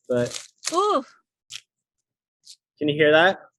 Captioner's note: crunching